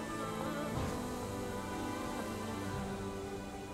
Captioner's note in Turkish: Rüzgâr sesi